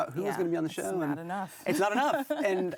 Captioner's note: laughs